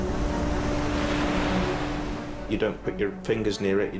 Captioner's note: waves crashing; dramatic music